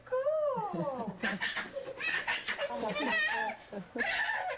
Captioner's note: whining